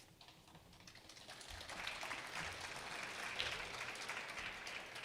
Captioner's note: attendees clapping